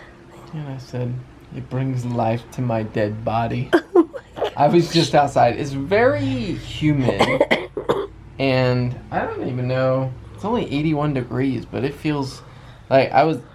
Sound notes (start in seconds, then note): 3.7 chuckles